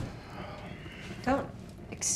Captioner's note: Ben sighs